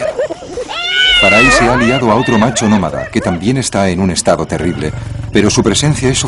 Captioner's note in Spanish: lloros